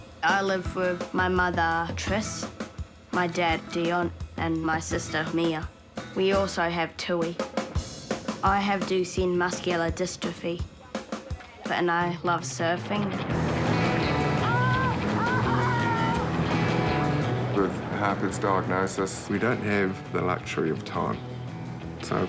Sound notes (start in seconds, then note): 15.5 chuckles